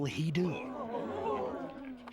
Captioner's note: gasping